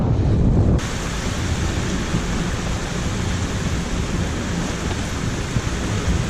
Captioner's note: wind, rain squall